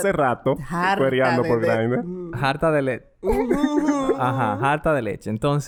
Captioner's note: laughs